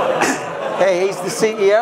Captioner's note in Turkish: gülme